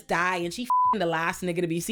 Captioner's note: beep